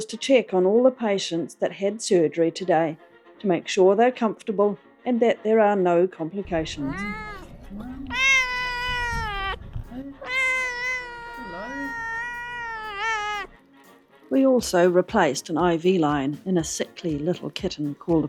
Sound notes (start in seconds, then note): 2.6 jazzy music; 10.2 loud meow